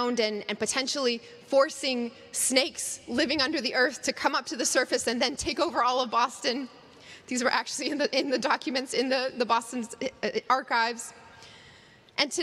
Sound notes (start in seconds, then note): none